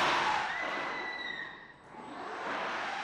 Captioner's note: quiet squeal